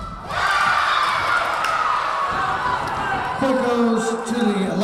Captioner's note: Lions cheering